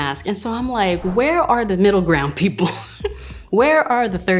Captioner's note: chuckles